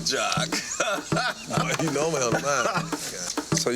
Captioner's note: man laughing